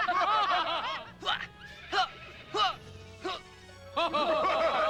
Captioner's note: continued laughter; grunting; laughter